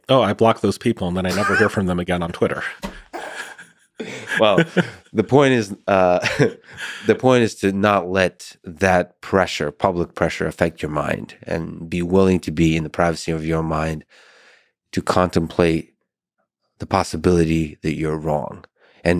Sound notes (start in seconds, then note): 3.9 both laughing